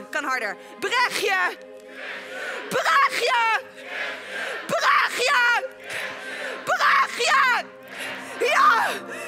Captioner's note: shouting